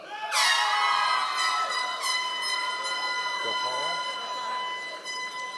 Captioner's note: members of the audience cheering